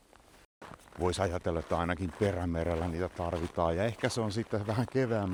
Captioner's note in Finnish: luistelun ääntä